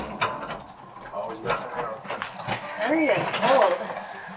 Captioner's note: door opens